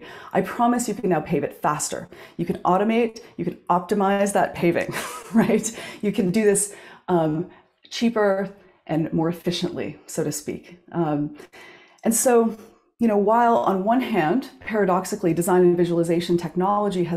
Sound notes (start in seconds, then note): 4.9 chuckles